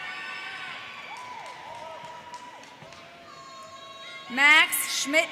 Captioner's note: audience cheers